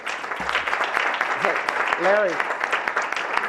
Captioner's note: applause